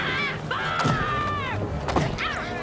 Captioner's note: thuds